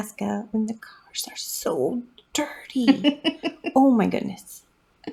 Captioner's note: laugh